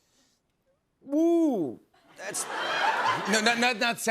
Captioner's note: laughter